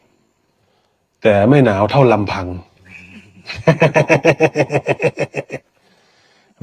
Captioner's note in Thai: เสียงหัวเราะ